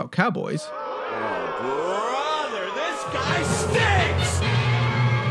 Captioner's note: booing, “oh brother this guy STINKS”